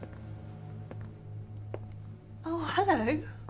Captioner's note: footsteps tapping; light dramatic music